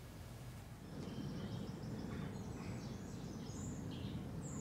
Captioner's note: rustling wind, birdsong